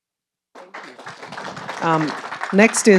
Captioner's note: audience applauding